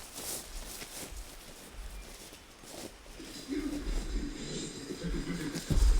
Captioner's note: footsteps crunching grass; animal grunting